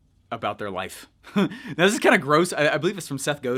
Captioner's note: laughs